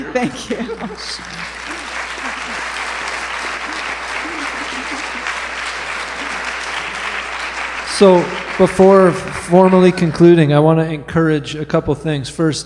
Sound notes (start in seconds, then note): 1.7 applause